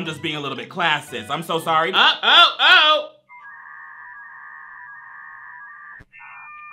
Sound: internet dial up ringing

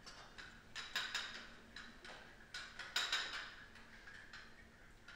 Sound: dishes clank

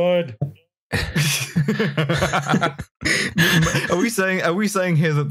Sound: laughter

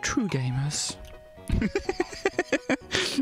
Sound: laughs

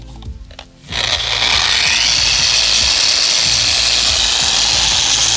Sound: machine whirring

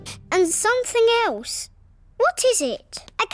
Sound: sniffs

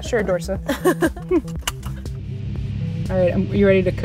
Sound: laughter, seatbelt clicks

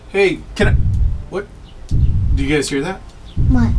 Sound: booming footsteps

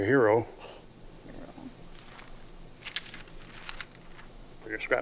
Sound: scoffs

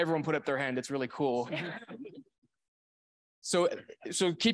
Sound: audience laughing

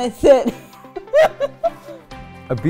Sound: laugh

